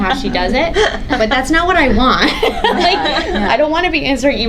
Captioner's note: laughs